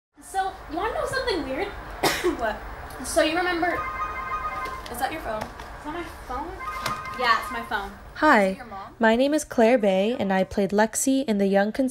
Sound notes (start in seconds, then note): 3.5 phone rings